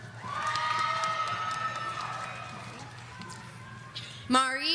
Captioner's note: audience cheering